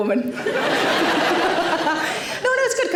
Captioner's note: audience laughing